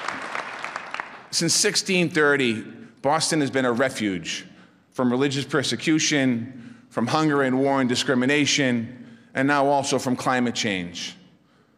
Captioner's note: applause